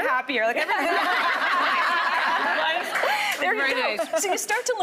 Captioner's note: laughing